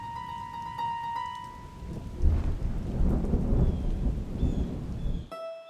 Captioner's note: thunder rumbling